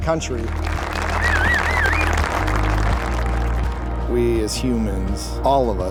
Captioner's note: applause